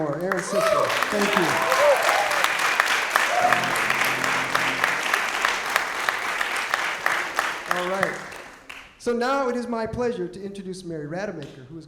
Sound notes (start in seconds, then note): 1.6 applause